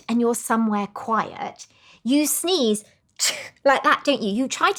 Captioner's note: sneezes